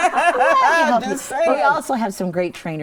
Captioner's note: laughing